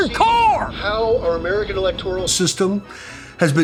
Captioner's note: radio